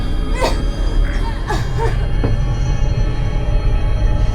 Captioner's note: Shelby choking